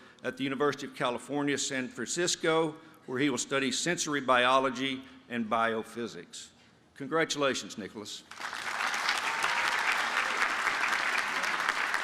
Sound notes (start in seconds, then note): 8.3 applause